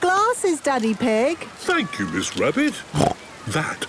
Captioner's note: snorts